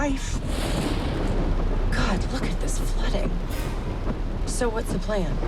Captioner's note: thunderclap